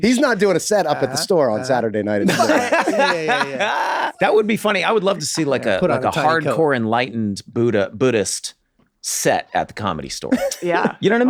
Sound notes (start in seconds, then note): 2.2 Glenn laughs